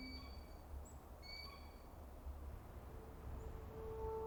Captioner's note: bird calling